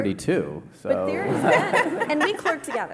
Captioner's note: laughter